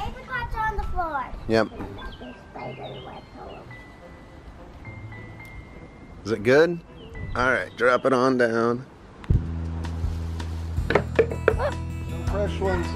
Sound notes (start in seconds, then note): 2.8 birds chirping; 10.8 apricots thudding onto the ground